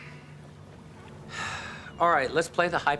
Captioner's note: sighs